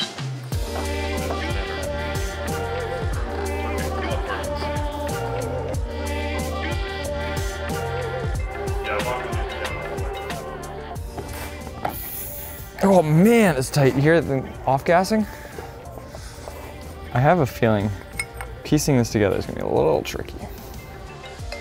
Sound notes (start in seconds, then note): 2.1 background chatter; 2.1 upbeat music; 21.3 upbeat music